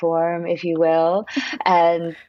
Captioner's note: laughs